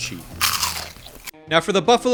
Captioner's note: cauliflower crunching